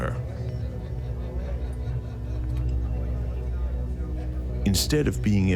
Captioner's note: people chattering